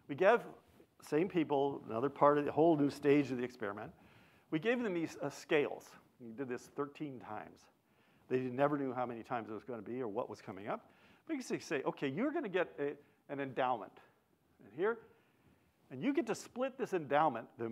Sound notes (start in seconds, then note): none